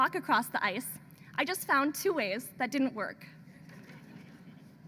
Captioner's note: laughter